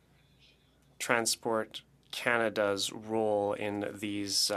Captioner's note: speaking French